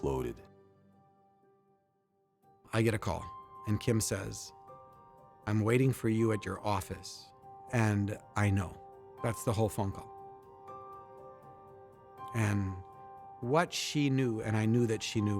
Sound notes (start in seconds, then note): none